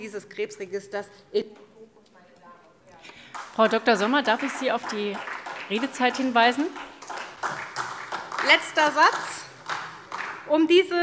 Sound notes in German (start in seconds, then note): 2.0 Beifall SPD